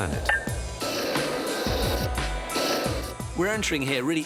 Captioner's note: flames whooshing